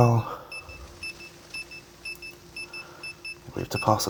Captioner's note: beep beep, beep beep